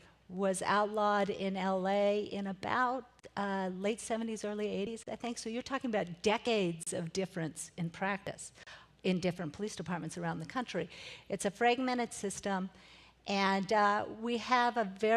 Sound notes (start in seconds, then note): none